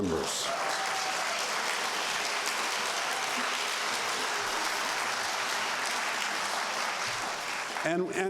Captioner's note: applause